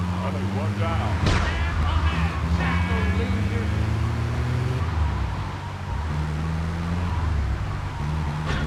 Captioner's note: gun firing; upbeat music